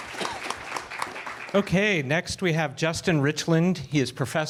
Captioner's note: applause